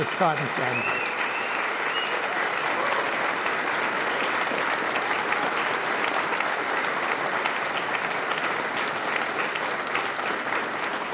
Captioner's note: applause